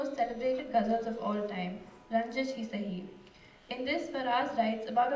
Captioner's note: non-english speech